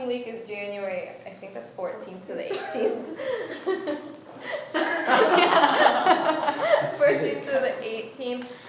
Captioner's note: laughs